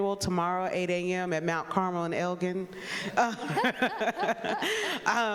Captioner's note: laughs